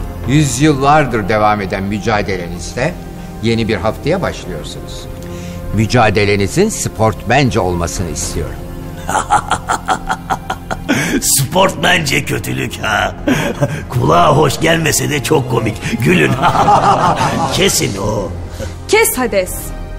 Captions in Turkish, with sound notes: Yüzyıllardır devam eden mücadeleniz de, Yeni bir haftaya başlıyorsunuz. Mücadelenizi sportmence olmasını istiyorum. (gülme sesi) Sportmence kötülük. Kulağa hoş gelmese de çok komik. Gülün. (gülme sesi) Kesin. Kes Hades.